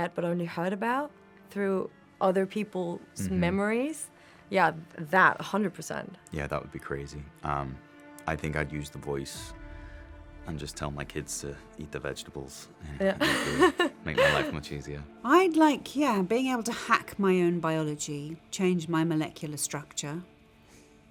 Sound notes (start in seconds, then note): 13.2 laughs